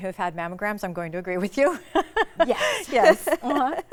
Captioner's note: laughs